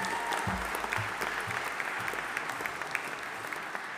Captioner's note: audience applauding